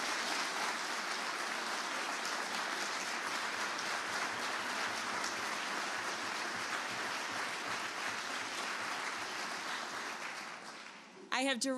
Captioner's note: applause